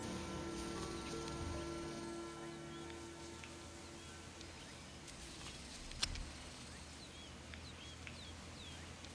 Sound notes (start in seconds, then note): 0.0 gentle orchestral music; 5.2 birds chirping